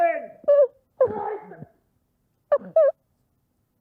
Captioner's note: crying